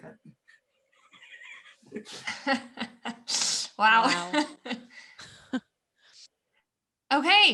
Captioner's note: laughter